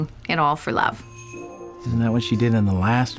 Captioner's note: doorbell jingles